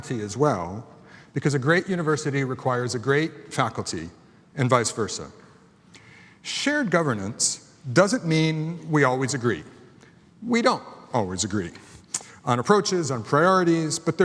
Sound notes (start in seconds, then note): none